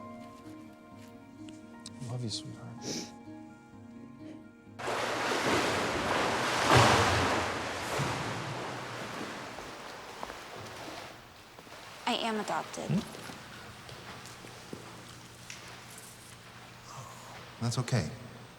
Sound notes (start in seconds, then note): 4.9 water splashing